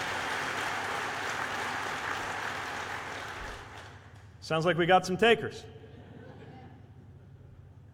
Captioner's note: cheers/applause